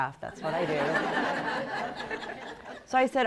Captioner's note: laughter